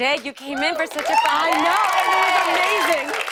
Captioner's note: cheers and applause